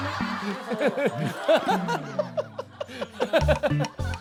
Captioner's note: giggling